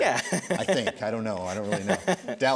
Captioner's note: laughs